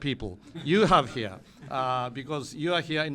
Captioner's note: laughter